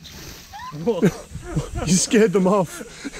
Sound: laughing

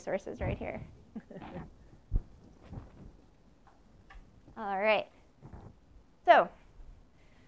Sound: laugh

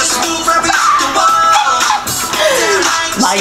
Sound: pterodactyl noises

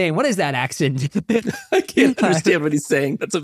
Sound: laughing

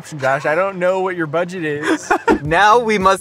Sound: laughs

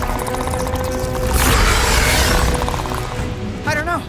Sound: snarls

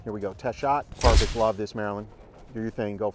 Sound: shutter snaps

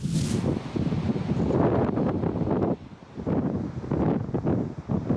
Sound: strong gusts of wind

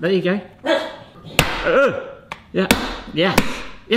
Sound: hammer bangs; grunts

